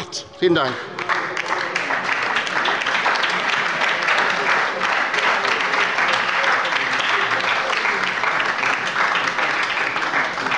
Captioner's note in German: Beifall bei der LINKEN und der SPD